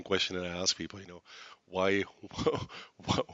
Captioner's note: laughs